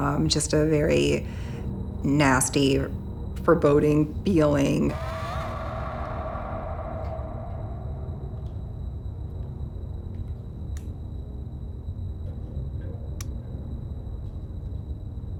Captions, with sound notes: Just a very nasty, foreboding feeling. (light clicks)